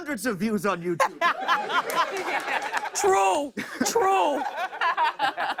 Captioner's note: laughter